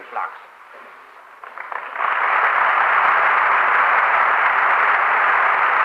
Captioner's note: applause